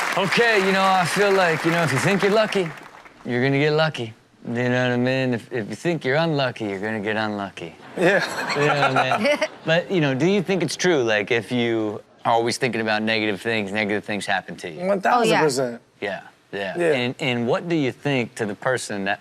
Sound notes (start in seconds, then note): 7.9 laughs